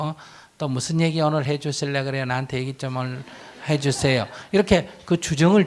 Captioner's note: audience Laughter